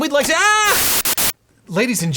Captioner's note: image scratching